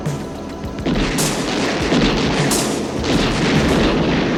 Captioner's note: gunshots